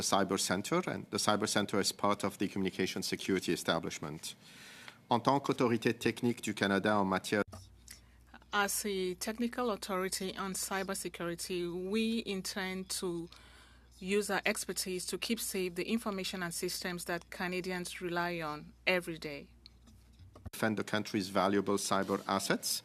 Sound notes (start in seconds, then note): 9.7 speaking French